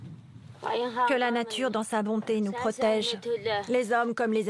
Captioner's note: foreign spoken audio